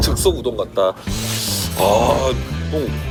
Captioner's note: slurp